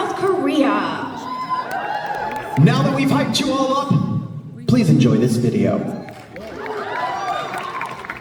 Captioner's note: applause